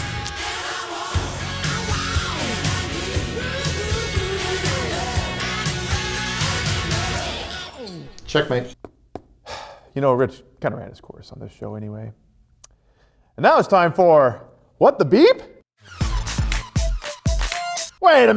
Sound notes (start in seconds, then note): 9.4 sigh